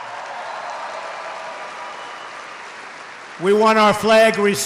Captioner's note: applause